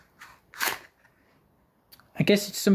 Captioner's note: cardboard sleeve removal